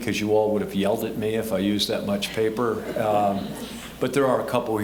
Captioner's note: audience laughing